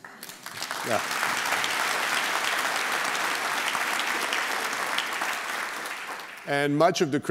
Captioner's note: applause